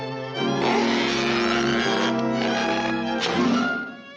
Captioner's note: belt squeaking